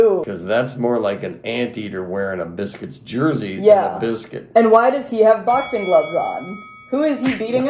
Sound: bell dings

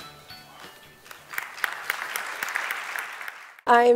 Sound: applause

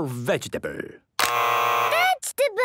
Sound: both buzzing

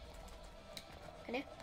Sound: click

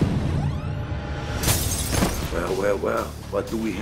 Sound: glass breaking

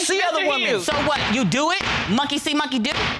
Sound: gavel bangs

